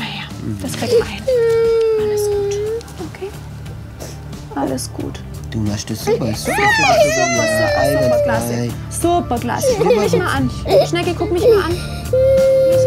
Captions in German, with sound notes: Das kriegen wir hin, alles gut. Okay? (Schniefen) Alles gut. - Du machst das super. (Lautes Heulen) Super, super, super, klasse. Superklasse! - Schlimmer wird's nicht. Schnecke, guck mich mal an.